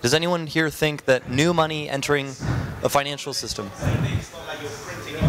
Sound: audience speaking

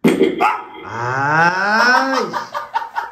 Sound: amplifying fart sound

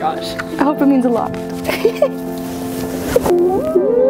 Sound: laughs

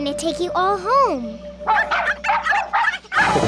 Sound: barking

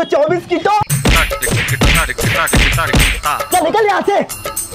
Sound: laughing

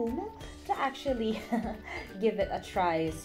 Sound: laughung

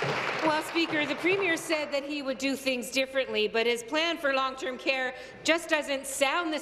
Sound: applause

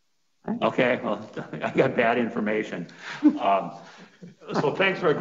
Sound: chuckling

